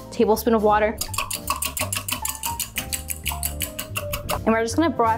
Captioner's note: mixer clanking